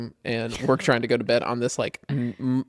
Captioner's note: laughs